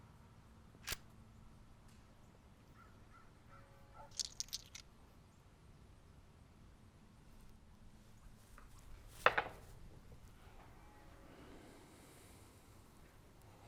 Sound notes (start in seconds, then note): 0.8 gun snaps; 4.1 bullets clinking